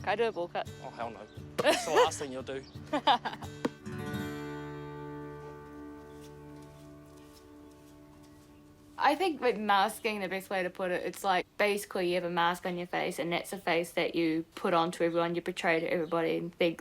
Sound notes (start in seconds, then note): 1.6 laughs